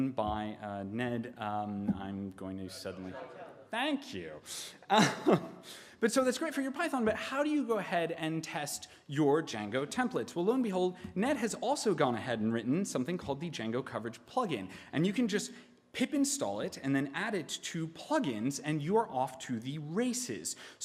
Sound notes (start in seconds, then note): 2.7 audience chattering; 4.9 laughing